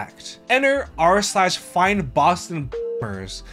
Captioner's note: beep